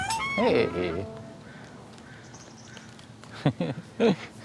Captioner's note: crow calling out, songbirds chirping; chuckles